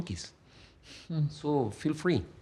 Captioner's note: laughs